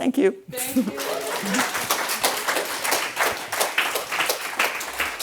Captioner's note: all applauding